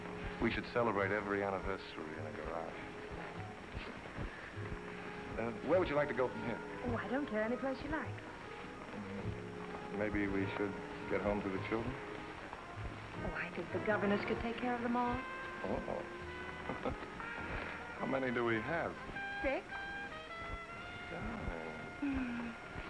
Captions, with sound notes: We should celebrate every anniversary in a garage. Where would you like to go from here? Oh, I don't care, anyplace you like. Maybe we should get home to the children? Oh, I think the governess can take care of them all. Oh! [chuckles] How many do we have? Six.. Darling..